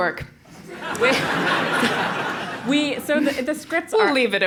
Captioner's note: laugh